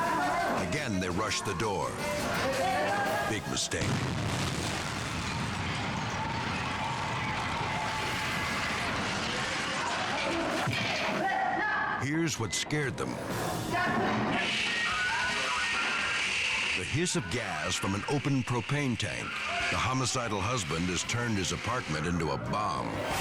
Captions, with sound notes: Again, they rush the door. Big mistake. (bomb exploding) (people shouting) Here's what scared them. (gas hissing) The hiss of gas from an open propane tank. The homicidal husband has turned his apartment into a bomb.